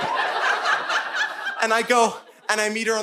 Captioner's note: audience laughing